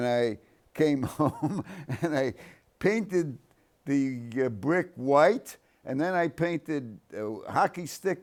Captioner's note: chuckles